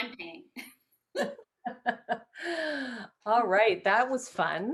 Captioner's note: both laugh